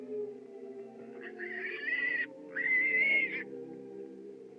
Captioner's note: squealing